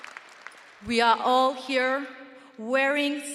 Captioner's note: audience applauding and cheering